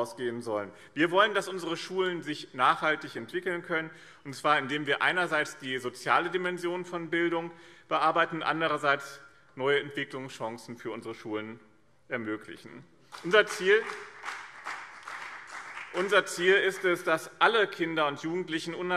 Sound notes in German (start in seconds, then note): 13.1 Beifall BÜNDNIS 90/DIE GRÜNEN und CDU